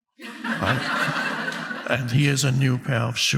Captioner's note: audience laughing